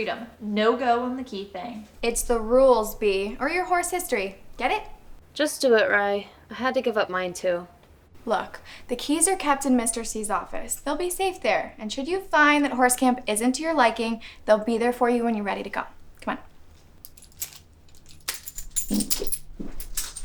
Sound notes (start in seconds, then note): 16.6 keys jingling